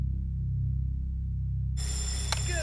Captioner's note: bell ringing